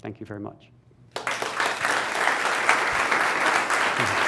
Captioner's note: applause